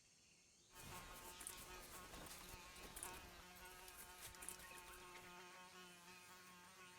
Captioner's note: buzzing